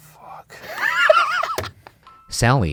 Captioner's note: laughs